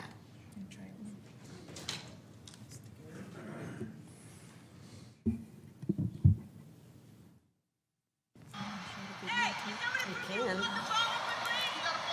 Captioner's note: shouting